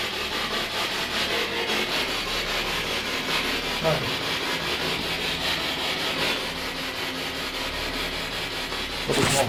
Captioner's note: radio noise from the spirit box